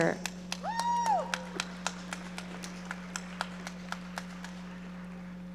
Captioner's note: audience members cheering and applauding